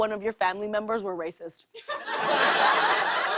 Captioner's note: laughter